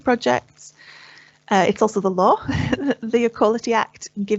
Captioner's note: chuckles